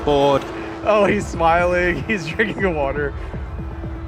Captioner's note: chuckles